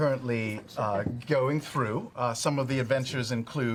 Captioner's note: quietly